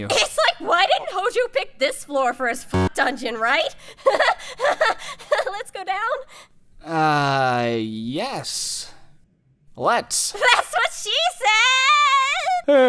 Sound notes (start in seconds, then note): 4.0 fake laughter; 12.6 sigh